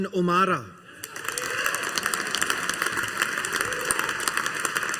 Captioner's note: audience applauding